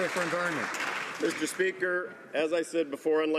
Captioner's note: some Applause